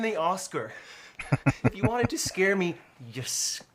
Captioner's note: chuckling